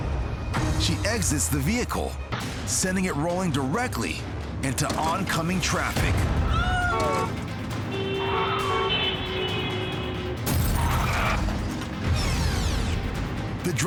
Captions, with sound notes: She exits the vehicle leaving the car sending it rolling directly into oncoming traffic. >>Oh! (horns blare) (car bangs) (tape whirs)